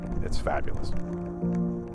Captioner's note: wind howling